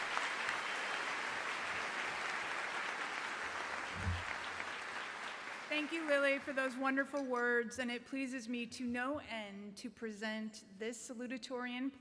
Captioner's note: cheering and applause; applause